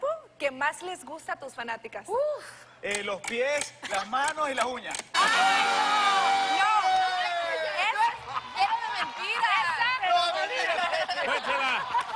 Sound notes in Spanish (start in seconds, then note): 8.1 Risas